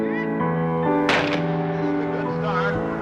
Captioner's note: starter's gun fires